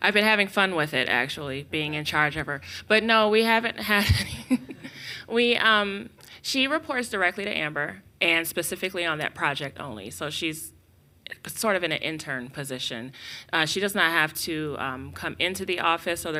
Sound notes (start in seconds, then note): 4.0 chuckles